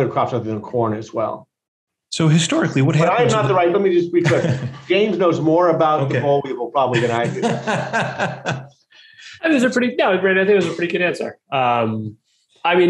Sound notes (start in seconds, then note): 6.9 laughing